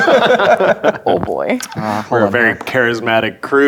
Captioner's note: players laughing; dice rolling